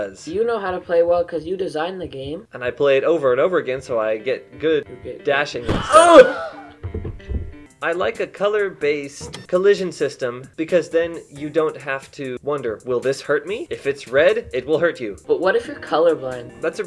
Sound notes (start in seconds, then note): 5.6 shouts; 5.7 Wilhelm scream